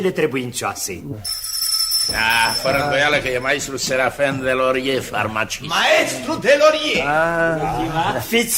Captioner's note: the doorbell rings